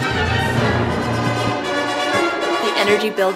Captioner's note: bopping